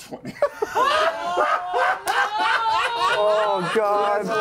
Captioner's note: laughter